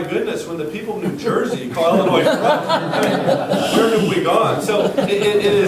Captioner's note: laughter